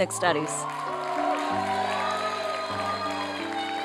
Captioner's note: applause and cheering